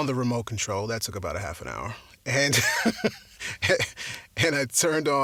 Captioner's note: laughs